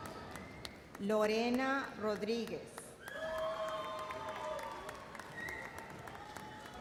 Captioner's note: audience cheers and applauds